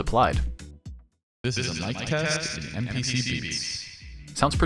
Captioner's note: echoing